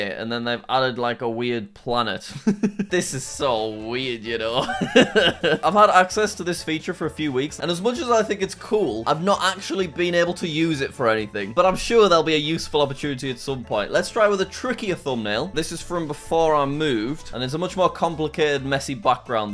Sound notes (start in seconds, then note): 4.5 laughs; 4.6 chuckles